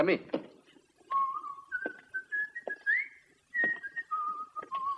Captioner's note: Jock whistles